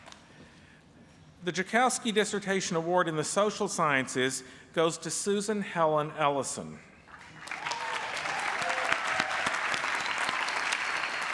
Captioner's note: applause